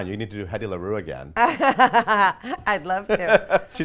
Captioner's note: laughing